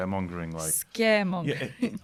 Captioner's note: laughter